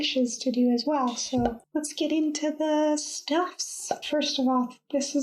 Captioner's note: pop!